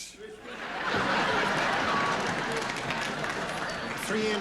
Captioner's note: laughter